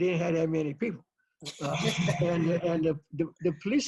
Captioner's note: laughs